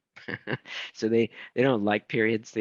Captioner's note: chuckling